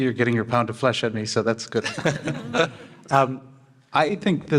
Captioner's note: panel laughing